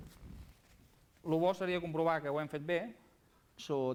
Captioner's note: non-english speech